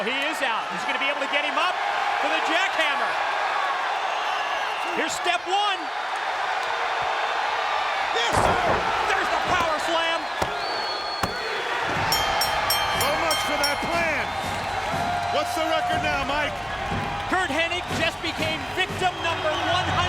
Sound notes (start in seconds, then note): 11.9 audience cheers; 11.9 bell rings